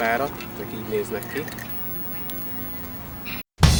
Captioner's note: clicker